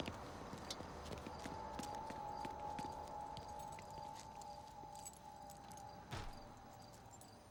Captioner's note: suspenseful music; footsteps tapping